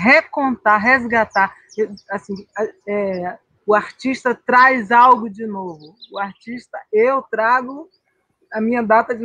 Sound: conversation continuing in Portuguese

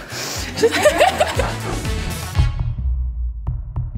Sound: laughter

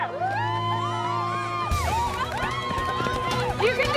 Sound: students cheering

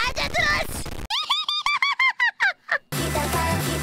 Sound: evil squirrel laugh

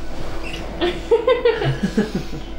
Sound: karl and emma joyfully laugh

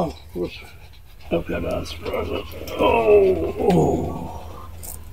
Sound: orgasms

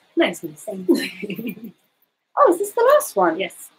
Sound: both giggling

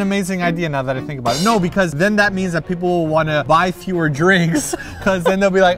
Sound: laughs

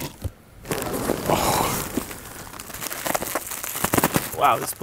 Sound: plastic rustling

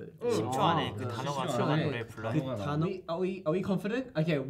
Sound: speaking in Korean

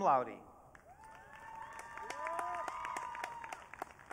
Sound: audience cheering

